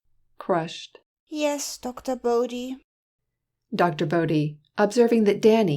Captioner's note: crushed